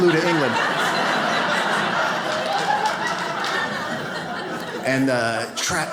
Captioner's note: audience laughs